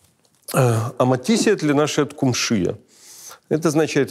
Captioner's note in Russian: говорит на болгарском